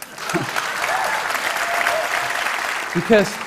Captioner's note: applause